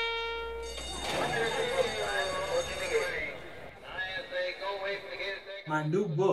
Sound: horse racing start bell and announcer over PA

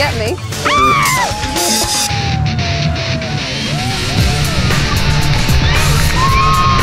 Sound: cheers

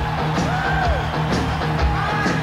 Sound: whoops

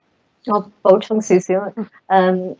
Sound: Cantonese

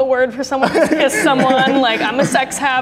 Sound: group laughing

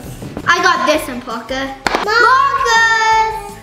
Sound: slaps shoes together

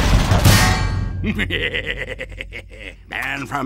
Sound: chuckling

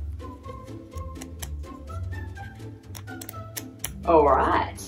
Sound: pages flipping

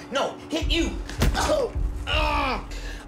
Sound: grunts

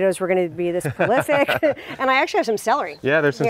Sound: laughs

